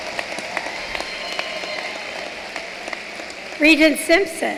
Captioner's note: cheering and applause